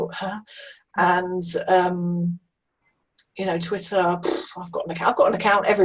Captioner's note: blows through mouth